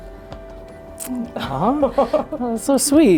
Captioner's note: chuckles